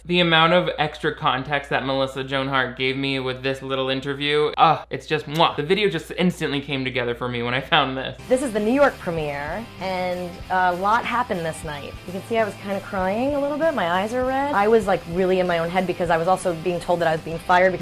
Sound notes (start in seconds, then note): 5.0 finger smooches loudly